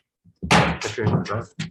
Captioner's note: gavel slamming